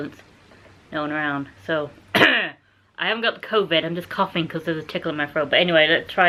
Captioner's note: cough